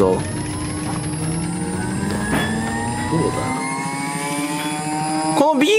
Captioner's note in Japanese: 機械が発動する音